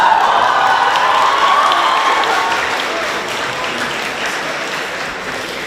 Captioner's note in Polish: Aplauz